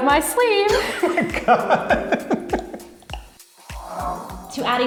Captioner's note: laughs